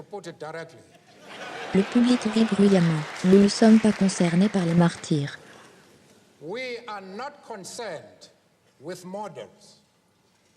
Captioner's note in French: Le public rit bruyamment